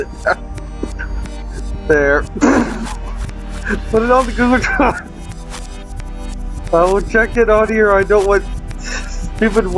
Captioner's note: chuckle